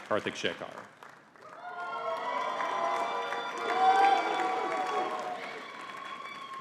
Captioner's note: audience cheering and clapping